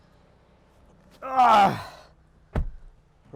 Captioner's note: le groans